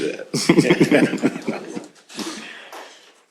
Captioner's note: laughs